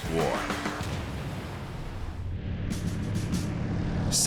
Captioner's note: engines roaring